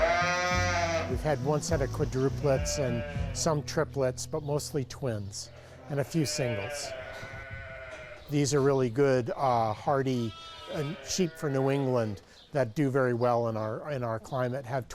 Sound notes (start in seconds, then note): 0.0 sheep baaing; 7.3 sheep baaing